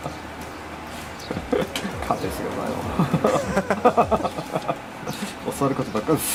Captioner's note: laughs; tears